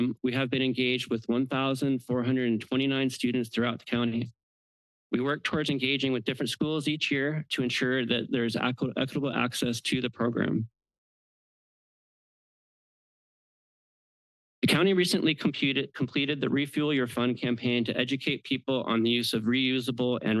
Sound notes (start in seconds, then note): 10.7 pause